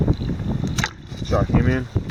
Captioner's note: water splashing